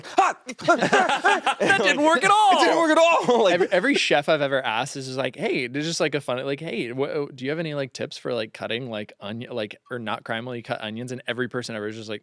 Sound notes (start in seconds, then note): 0.0 laughs